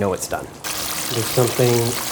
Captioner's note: chicken sizzling